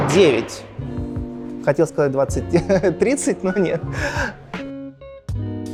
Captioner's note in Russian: Смеётся